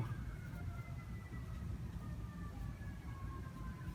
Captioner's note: sirens in the distance